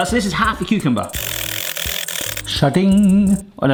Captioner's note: grater patters at high speed